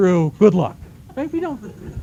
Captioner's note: laughter